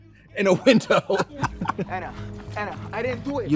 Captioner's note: Trixie and Katya laugh; laughing and clapping